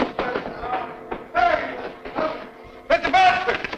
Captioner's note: Andy grunting